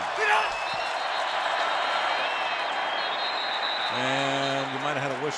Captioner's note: whistle